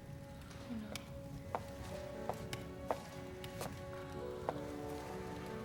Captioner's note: footstep